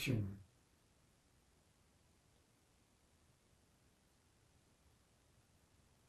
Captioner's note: pauses 8 seconds